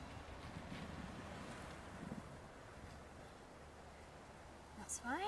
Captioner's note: wind blowing